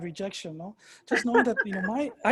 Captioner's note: laughing